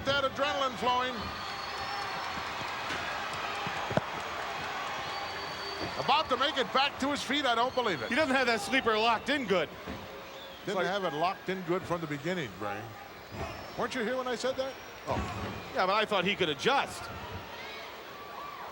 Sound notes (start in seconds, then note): 3.8 applause